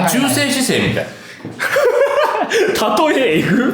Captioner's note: laughs